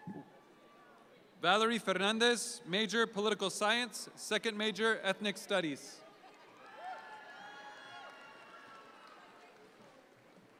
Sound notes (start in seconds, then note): 6.6 audience cheer